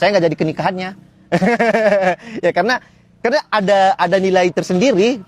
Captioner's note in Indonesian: tertawa